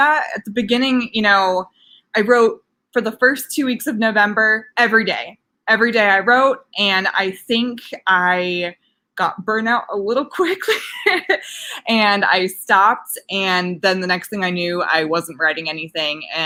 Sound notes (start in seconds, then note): 11.0 laughs